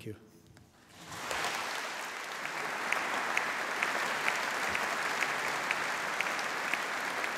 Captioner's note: applause